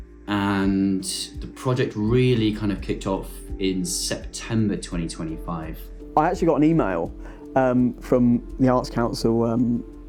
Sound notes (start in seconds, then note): none